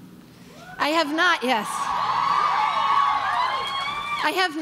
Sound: crowd cheering

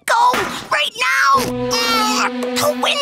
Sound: grunting

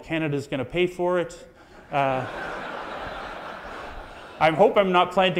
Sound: audience laughs

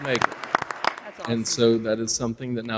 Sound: audience applauds

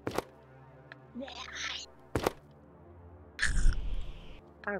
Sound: Parker growls; Parker growls again

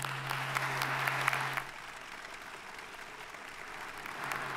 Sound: audience applauding

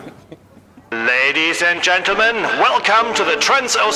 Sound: loudspeaker

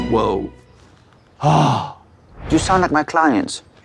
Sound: sighs

